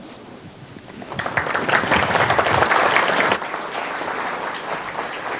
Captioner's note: audience applauding